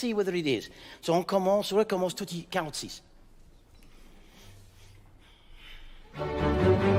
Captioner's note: energetic orchestral music; speaking in French